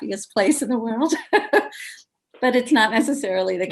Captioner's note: laughs